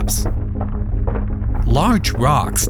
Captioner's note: rocks clacking